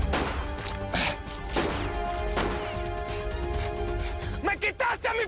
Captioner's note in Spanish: Disparos